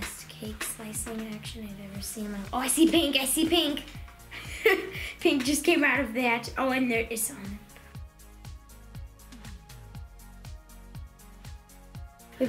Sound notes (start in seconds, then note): 4.3 laughing; 8.8 light upbeat music